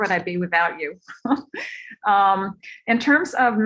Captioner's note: laughter